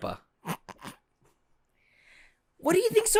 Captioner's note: snorts